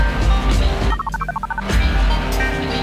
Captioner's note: phone buzz